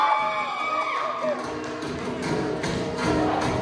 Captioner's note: applause